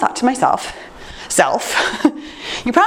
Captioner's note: chuckles